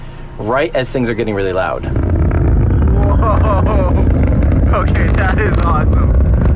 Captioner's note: chirping sounds